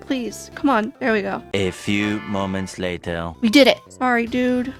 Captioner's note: french accented male narrator voice